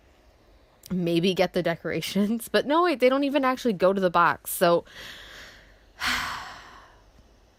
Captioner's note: long sigh